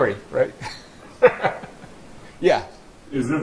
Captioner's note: laughter